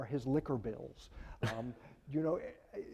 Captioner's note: laughing